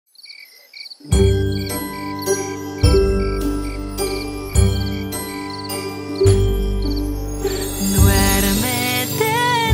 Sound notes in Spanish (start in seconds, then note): 0.0 Grillos; 1.0 Música de cuna